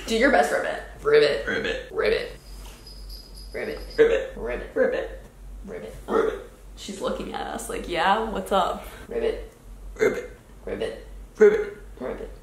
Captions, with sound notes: Do you best ribbit. - Ribbit. - Ribbit. - Ribbit. (dog chain jingles) - Ribbit. - Ribbit. - Ribbit. - Ribbit. - Ribbit. - Ribbit. - Ribbit. - Ribbit. She's looking at us like yeah, what's up. - Ribbit. - Ribbit. - Ribbit. - Ribbit.